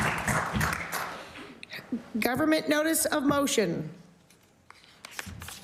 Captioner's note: applause